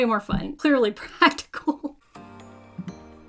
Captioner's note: laughs; upbeat music